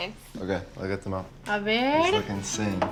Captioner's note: speaking Spanish